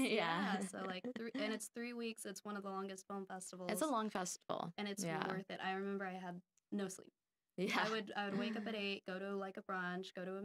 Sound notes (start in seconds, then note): 8.3 laughing